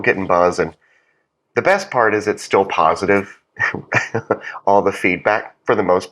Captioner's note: laugh